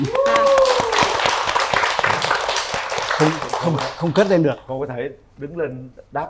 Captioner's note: applause